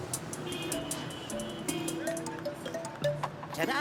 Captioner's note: cars honking